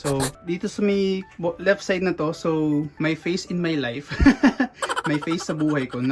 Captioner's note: laughs